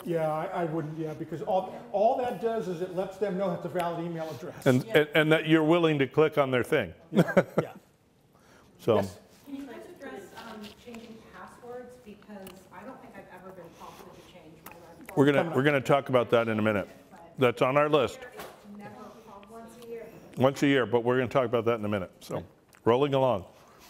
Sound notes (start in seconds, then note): 7.1 laughs